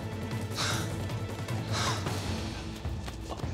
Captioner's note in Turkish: Nefes sesi